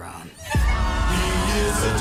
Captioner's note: sirens